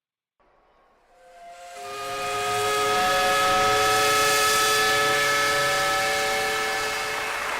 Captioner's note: steam whistle; applause